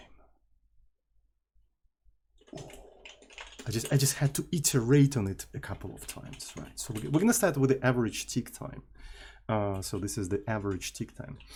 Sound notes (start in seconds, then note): 2.5 chuggingcoffee